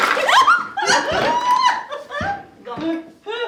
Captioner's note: giggling